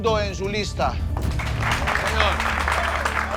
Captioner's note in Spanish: Aplausos